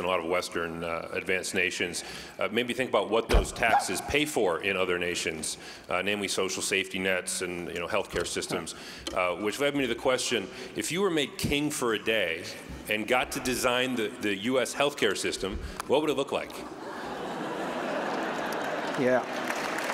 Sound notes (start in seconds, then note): 16.7 laughter